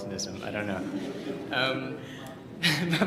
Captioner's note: laughter